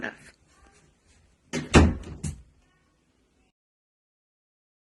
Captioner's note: door closes